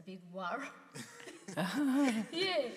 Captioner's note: participants laugh